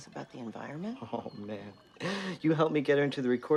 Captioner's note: laughs